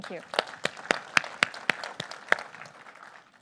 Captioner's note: applause